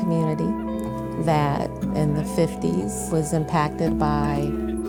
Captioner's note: group chattering